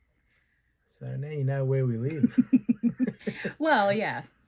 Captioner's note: laughter